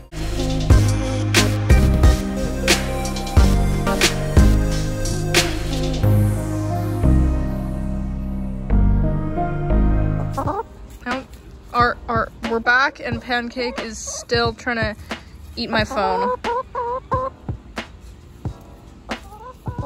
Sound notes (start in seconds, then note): 0.0 calm music; 10.3 curious chicken noise; 15.5 chicken noise; 16.5 chicken noises; 19.0 louder chicken noises